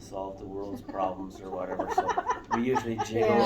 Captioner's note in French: Rires